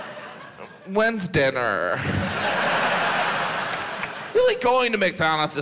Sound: audience laughs

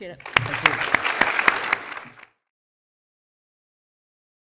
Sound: applause

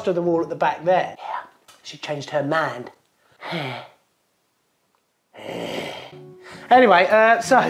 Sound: sighs then growls

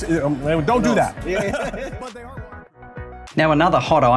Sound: chuckles

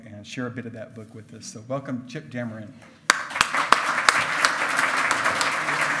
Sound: loud clapping

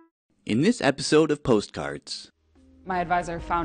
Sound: voiceover

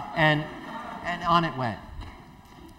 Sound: laughter

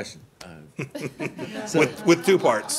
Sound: laughter

